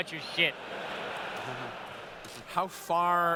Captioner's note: laughter